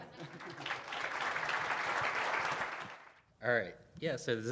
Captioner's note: audience applauding